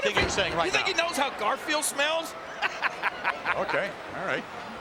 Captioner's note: laughing